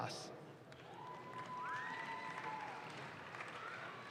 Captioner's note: audience claps